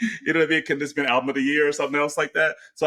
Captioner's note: laughs